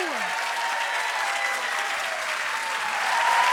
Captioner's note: applause